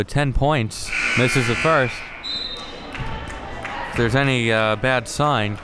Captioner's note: whistle blows